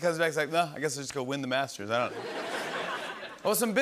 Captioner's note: laughter